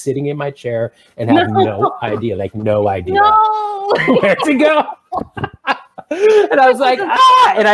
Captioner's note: laughs